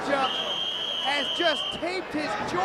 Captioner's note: whistling